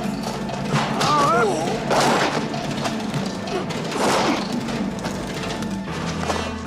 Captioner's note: man exclaims; thuds